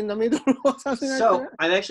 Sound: laughing

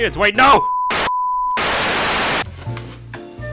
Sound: beeping and static

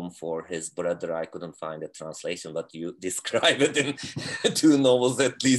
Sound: laughing

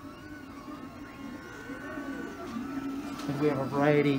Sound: whirring of printers

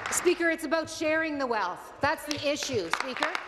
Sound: applause

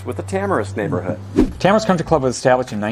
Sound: note swooshes

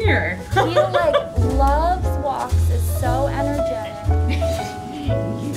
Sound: laughter; laughter

